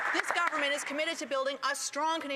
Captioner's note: applause